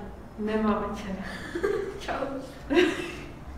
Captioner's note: laugh